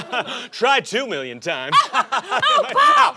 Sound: laughing; laughs

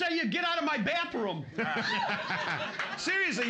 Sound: loudly laughing; cheers and applause

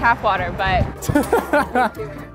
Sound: laughs

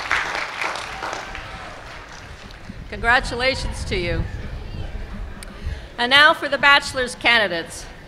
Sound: cheers and applause

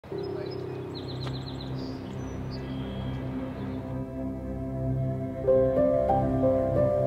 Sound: birds tweeting; dramatic music

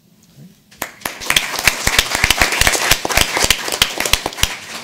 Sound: audience applauding

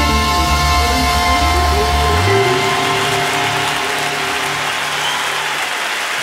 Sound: audience cheering and applauding

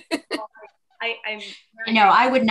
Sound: laughs

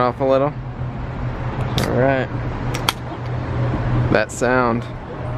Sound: sound of can opening

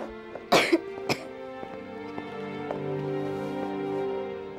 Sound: Tai San coughing

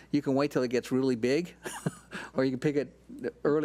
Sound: laughs

